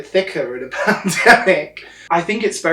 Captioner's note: laughs